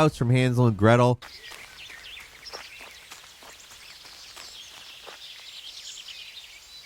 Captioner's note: birds chirping; footsteps thumping